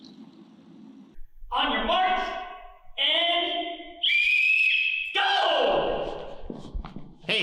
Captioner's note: whistle blows